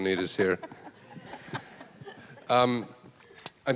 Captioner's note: laughing